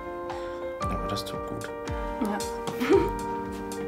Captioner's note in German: lachend